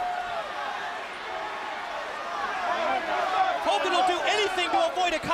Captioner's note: crowd chatter